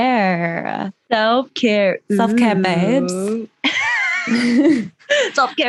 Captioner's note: laughter